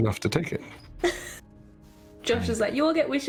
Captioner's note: small laugh